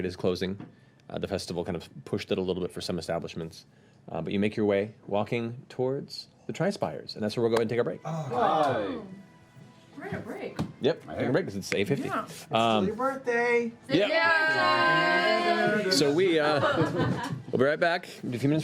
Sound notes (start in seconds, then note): 14.4 cheering